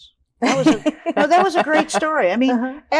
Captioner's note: all laughing